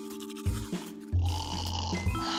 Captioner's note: toothpaste squirts; snores